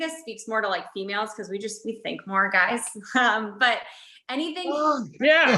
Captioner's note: chuckles